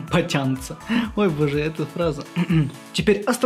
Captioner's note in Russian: Смеется